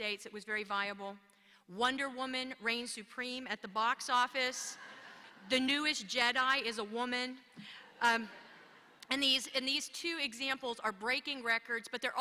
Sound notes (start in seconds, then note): 4.7 laughter